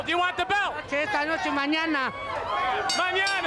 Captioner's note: speaking in Spanish